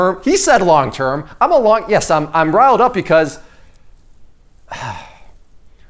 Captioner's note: sighs